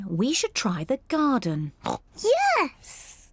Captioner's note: oinks